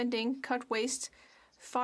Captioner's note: speaking French